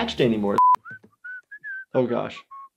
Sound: Stewie whistling

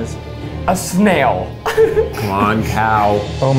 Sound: intense music; laughs

